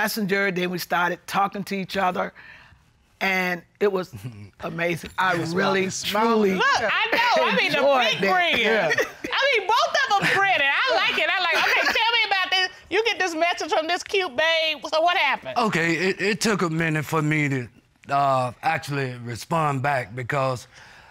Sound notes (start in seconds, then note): 4.3 chuckles